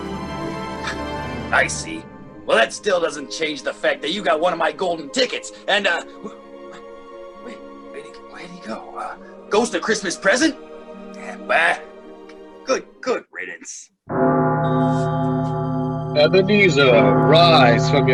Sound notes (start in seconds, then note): 14.1 falls asleep and bell tolls